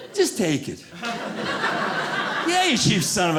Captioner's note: audience laughing